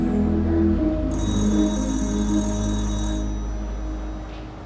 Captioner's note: phone rings